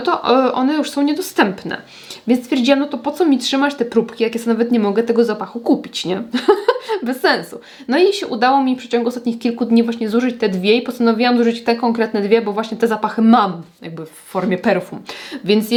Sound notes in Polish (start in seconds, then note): 6.3 śmiech